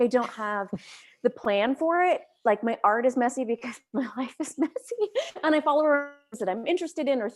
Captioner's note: chuckles